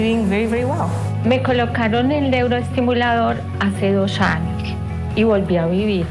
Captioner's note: speaking foreign language